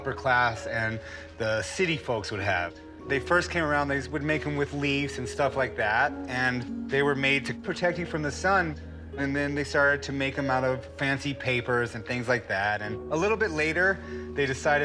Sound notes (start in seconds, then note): none